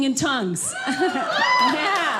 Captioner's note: audience laughing